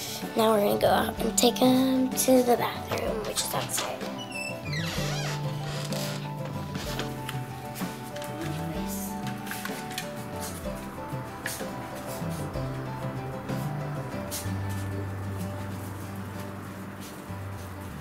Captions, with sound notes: Now, we're gonna go out and take 'em to the bathroom, which is outside. (door creaking) Come on puppies. (puppy sneezes)